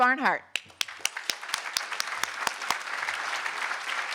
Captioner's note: applause